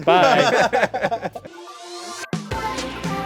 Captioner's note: all laughing; upbeat electronic music